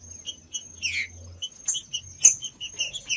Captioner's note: trinca ferro cantando